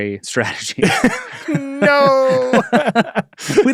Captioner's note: laughs